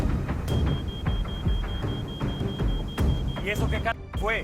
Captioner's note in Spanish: Alarma